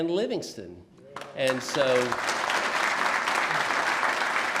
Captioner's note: applause